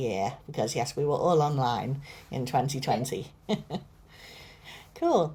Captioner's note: chuckles